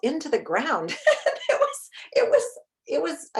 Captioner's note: chuckles